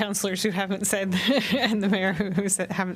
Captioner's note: laughter